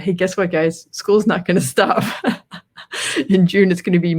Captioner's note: laughs